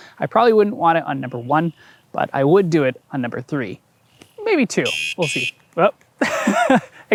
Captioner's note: beep beep